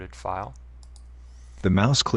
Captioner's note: mouse click